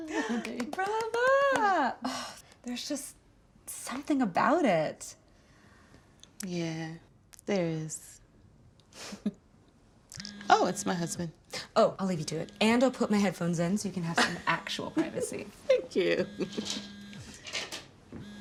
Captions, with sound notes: - Brava! There's just something about it. - Yeah, there is. (chuckles) Oh, it's my husband. Oh, I'll leave you to it, and I'll put my headphones in so you can have some actual privacy. - (laughs) Thank you.